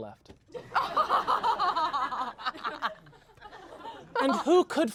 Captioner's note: everyone laughs